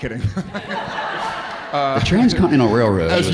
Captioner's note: audience laughing; laughs